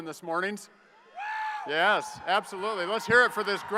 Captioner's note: audience member cheers